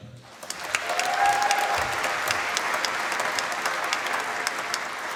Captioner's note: applause